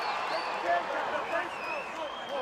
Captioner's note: crowd chatter